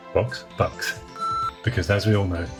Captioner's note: beeping sound